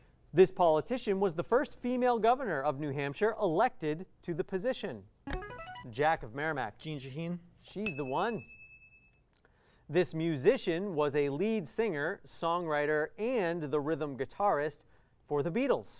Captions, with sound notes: This politician was the first female governor of New Hampshire elected to the position. [player buzzer] Jack of Merrimack. Jean Shaheen. [ding] She's the one. This musician was a lead singer, songwriter, and the rhythm guitarist for the Beatles.